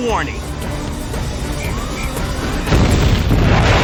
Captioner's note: whistle blows